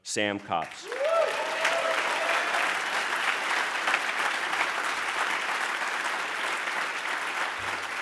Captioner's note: cheers and applause